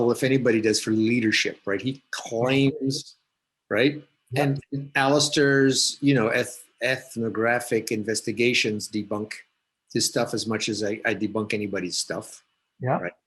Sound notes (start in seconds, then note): 2.1 static audio